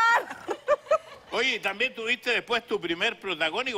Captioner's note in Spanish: Risas